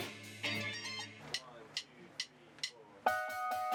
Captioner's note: tapping drumsticks